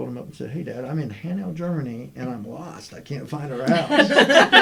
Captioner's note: laughter